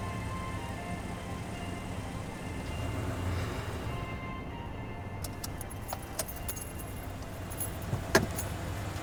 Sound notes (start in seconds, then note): 5.2 keys jingling